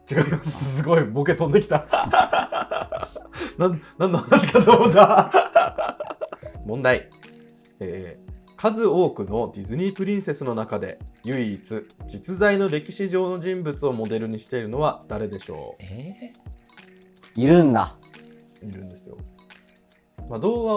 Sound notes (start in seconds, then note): 1.6 laughing